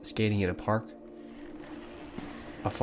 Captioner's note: ice skates on ice